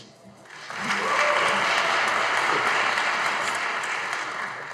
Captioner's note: audience applauding